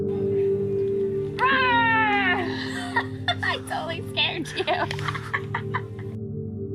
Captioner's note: Morgan yelling